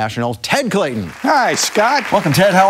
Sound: audience applauding

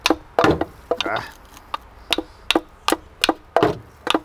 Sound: grunts

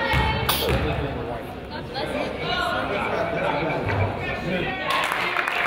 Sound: child sneezes; crowd applauds

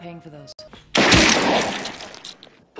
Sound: gunshot

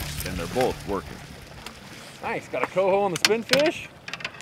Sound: fish splashing

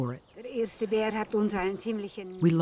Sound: speaking in foreign language

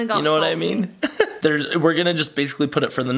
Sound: laughs

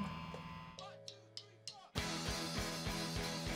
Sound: drumsticks clanking; uptempo rock music

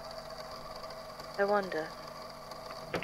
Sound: door opening

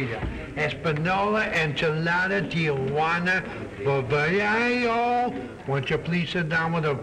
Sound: broken spanish

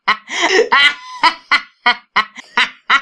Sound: more laughs

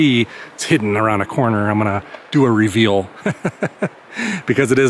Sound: laughs

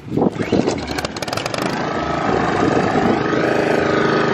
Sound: engine ignites

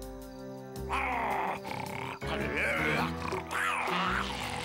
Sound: muffin snarling

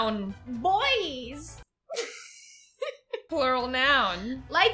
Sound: laughs

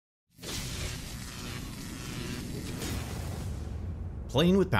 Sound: electricity buzzing

